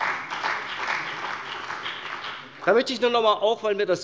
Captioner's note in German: Beifall bei der CDU und dem BÜNDNIS 90/DIE GRÜNEN